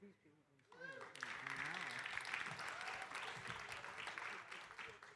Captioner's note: audience applauding